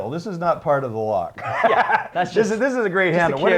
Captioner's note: laughs